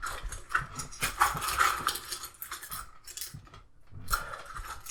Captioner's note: barber tools rattle